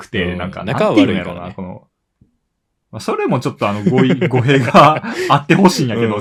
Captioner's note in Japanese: 笑い